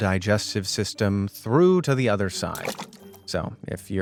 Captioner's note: plopping sound